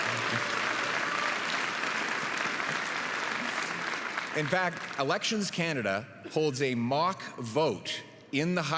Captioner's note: applause